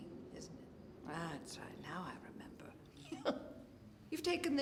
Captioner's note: chuckling